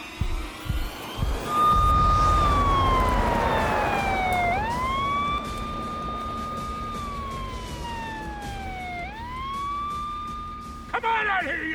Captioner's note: sirens wail